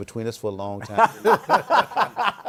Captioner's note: laughter